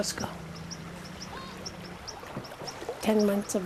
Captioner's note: kids chattering